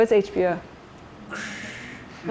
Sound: imitating static; laughter

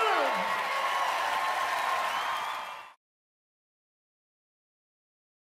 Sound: audience cheering

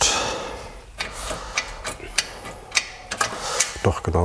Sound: clacking

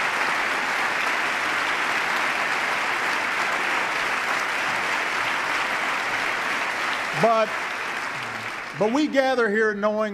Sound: applause

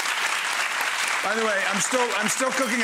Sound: audience applauding

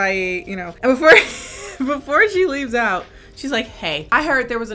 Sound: laughs

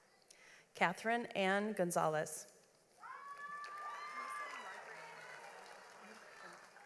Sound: audience applauds

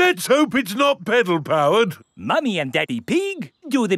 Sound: none

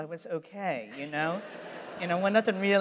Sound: laughter

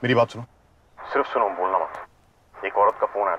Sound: Keshav on phone

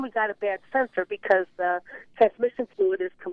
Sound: none

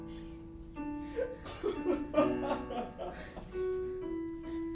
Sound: loud sobbing

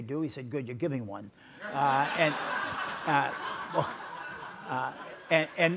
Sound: audience laughs

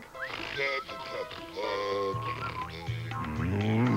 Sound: giggles

